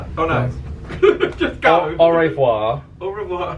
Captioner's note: laughs